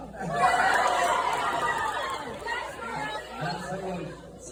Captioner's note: audience cheers